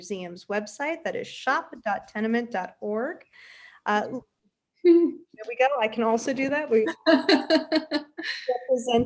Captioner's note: laughs